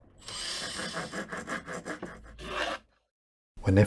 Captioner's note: workshop sounds